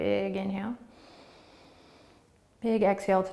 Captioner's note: inhaling